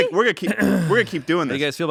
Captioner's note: clears his throat